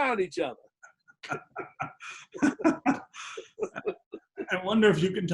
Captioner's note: laughter